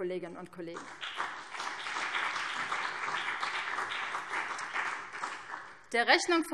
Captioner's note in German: Beifall BÜNDNIS 90/DIE GRÜNEN